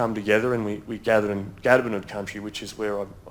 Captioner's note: speaks in foreign language